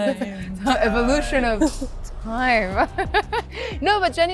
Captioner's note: laughs